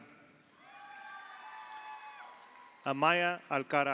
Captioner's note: audience cheers; audience applauds